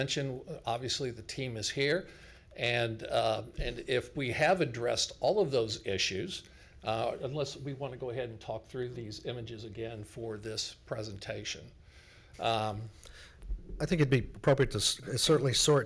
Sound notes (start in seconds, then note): none